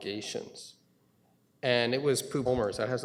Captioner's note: audio drop